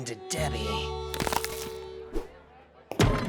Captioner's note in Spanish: crujido